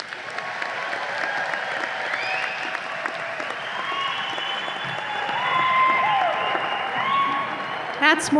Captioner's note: audience applause and cheers